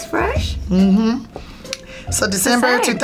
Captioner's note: mumbles in agreement